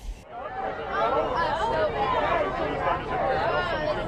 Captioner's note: talking